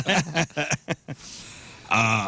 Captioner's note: laughter